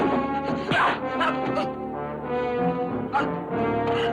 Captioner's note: grunting